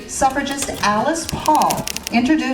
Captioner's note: words clicks